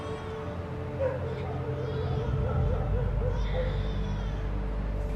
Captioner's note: baby cries; dog barks